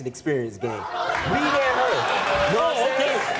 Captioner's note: audience clapping